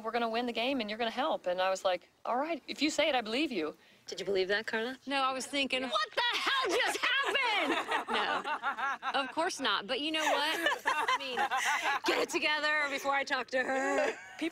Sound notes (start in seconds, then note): 6.5 laughter